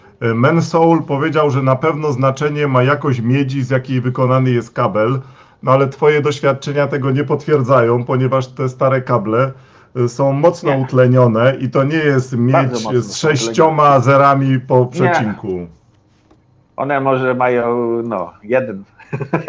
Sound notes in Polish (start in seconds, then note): 19.0 śmiech